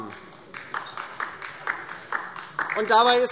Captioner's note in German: Beifall DIE LINKE